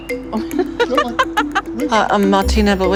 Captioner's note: laughs